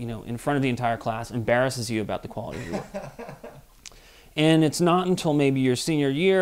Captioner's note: laughs